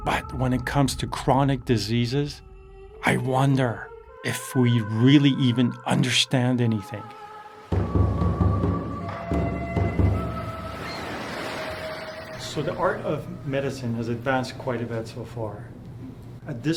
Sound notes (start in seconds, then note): 7.2 waves crashing; 7.7 tense drumming music